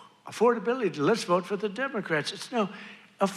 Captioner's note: none